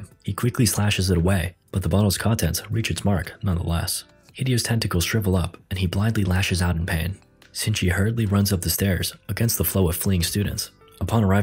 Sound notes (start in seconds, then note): none